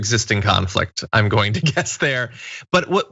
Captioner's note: laugh